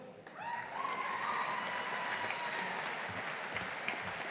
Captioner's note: audience applauding